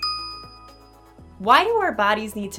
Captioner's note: pause